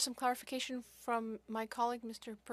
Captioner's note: speaking French